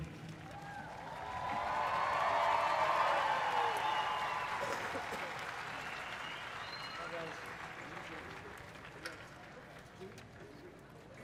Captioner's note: applause